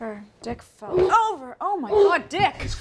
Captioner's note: groans